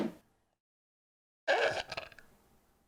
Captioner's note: burps